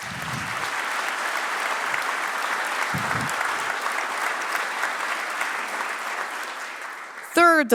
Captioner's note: applause